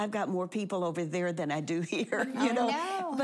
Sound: laughing

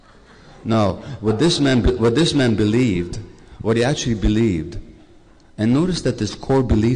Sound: laughter

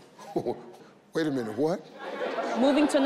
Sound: chuckles

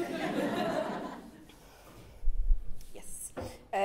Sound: chuckles

